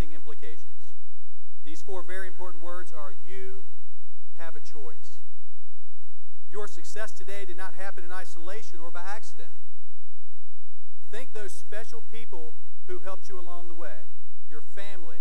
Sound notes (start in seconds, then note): none